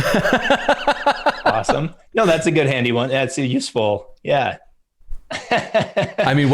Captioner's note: laughter